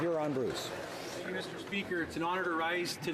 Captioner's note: applause